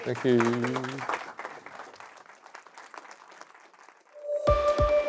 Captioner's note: audience applauding; bright music